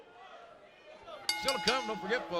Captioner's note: bell ringing